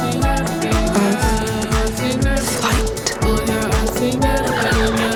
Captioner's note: keystrokes; cooing